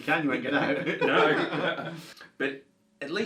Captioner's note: both laugh